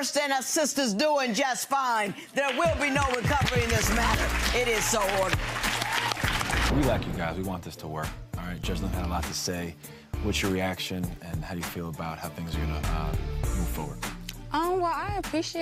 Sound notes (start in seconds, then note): 6.2 gallery applauds